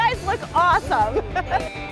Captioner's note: laughs